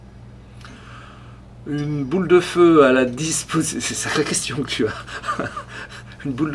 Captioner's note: laughs